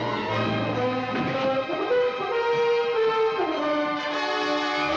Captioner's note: men struggling; dramatic music